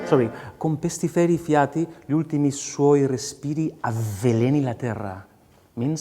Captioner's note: speaking in a foreign language